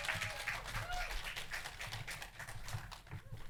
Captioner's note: applause